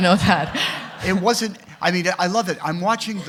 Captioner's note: audience laughing